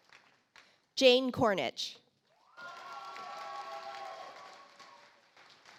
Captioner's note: audience applauds